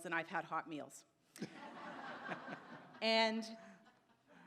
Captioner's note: audience laughs